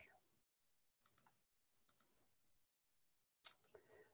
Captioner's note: mouse clicking